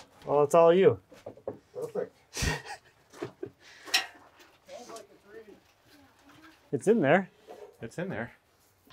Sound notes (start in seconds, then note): 2.3 laughing